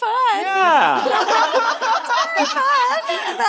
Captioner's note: all laughing